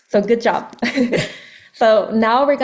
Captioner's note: laughs